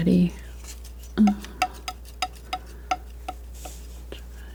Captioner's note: tapping on paper